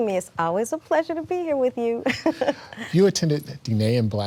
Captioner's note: laughs